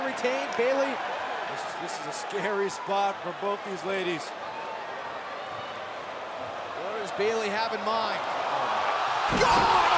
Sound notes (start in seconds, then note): 4.5 crowd cheering